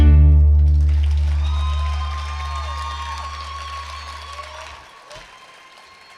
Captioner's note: attendees clapping and cheering